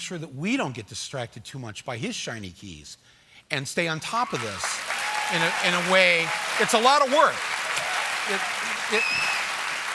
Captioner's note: applause